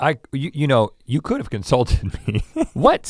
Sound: laughs

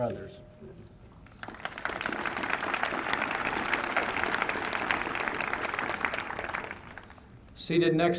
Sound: applause

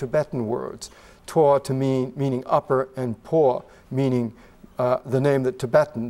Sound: tibetan

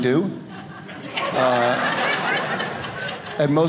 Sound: audience laughing

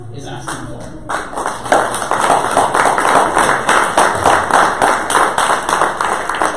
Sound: audience applause

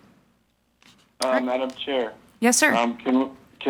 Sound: bell

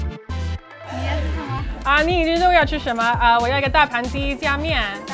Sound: speaking in foreign language

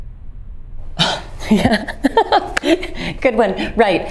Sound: laughing

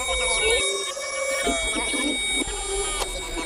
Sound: click

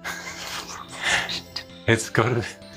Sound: laughs

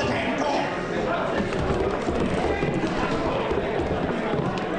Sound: voices murmuring

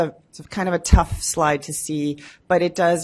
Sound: none

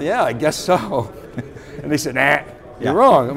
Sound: chuckling

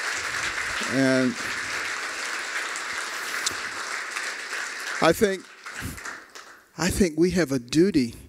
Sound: applause

